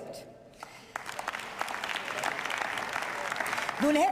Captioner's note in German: Beifall